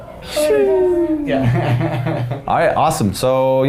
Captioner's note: laughing